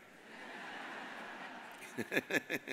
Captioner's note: audience laughs; all laugh